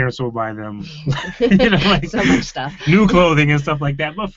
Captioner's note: laughing